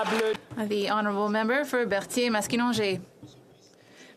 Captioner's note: applause